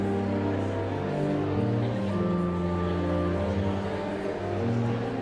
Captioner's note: enigmatic organ music continues; audience chattering continues